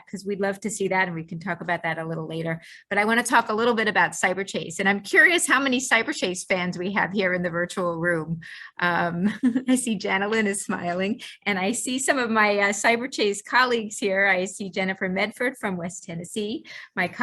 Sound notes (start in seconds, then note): 8.7 chuckles